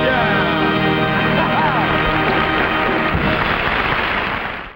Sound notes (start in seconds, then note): 1.1 audience applauding; 1.2 man laughing